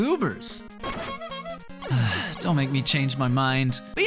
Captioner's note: sigh